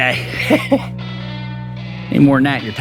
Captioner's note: laughing